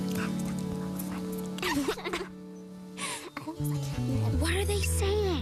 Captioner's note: giggles and whispers